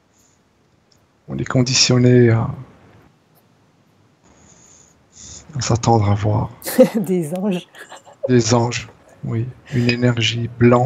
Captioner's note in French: rires